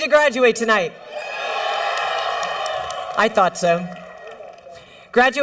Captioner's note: cheering